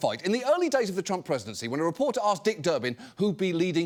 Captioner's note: none